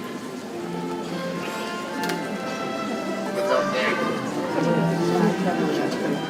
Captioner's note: people chattering; ceremonial orchestral music